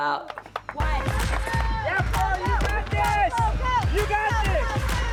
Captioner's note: all cheer